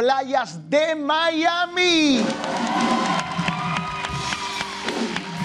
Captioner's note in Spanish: Aplausos